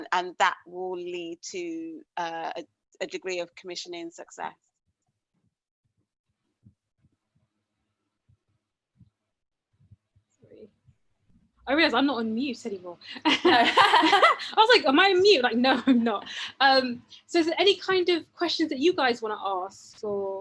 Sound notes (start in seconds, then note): 13.4 laughs